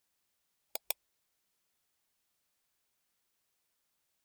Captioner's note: button clicks